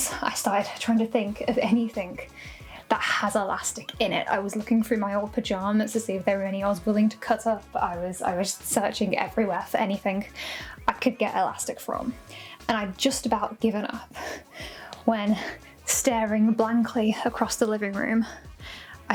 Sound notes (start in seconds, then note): none